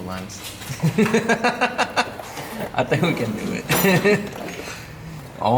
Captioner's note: laughs